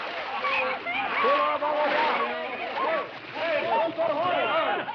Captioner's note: screaming and clamoring